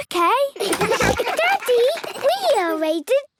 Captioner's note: giggles, snorts